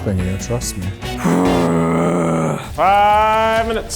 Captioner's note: groans